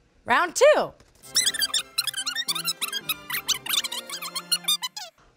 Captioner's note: sped up speech